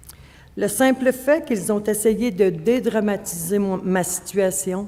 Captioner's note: speaking French